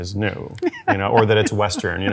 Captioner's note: laughs